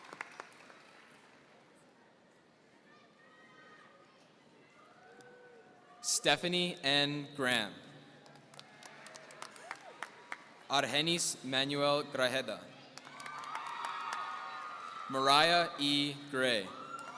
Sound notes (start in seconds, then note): 8.2 applause; 13.0 audience cheering